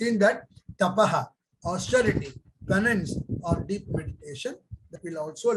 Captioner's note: speaks in Hindi